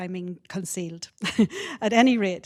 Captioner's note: chuckles